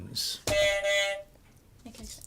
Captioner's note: buzzer